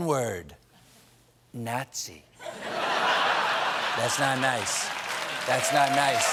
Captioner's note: laughter